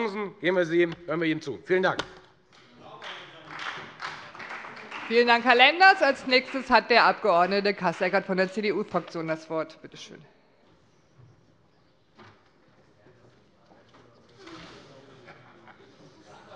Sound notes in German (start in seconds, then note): 2.5 Beifall